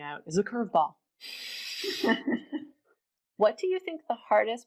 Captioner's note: laughing